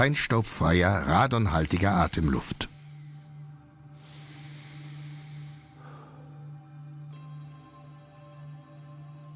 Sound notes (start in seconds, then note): 4.8 inhales deeply